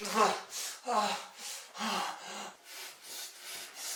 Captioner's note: Phil panting